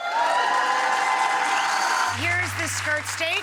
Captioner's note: audience applauding